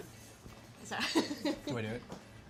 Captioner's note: laughing